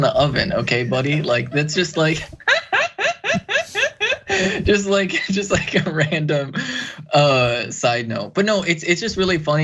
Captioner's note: laugh